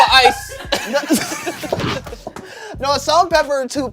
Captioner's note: everyone laughs